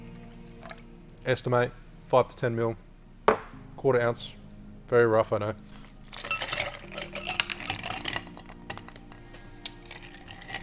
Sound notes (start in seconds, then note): 0.5 liquid pours; 3.2 thuds; 5.8 ice clinks